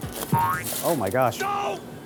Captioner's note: laughs